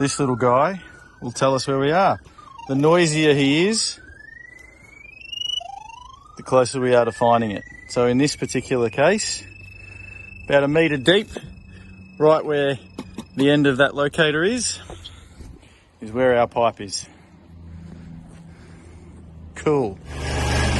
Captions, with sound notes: This little guy, will tell us where we are.The noiser he is, [beeeeping stronger] the closer we are to finding it So in this particular case [frequent beeping] about a meter deep, right where the end of that locator is Is where our pipe is. Cool